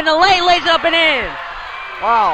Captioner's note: crowd cheers